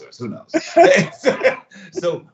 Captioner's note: both laugh